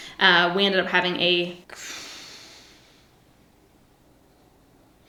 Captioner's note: sighs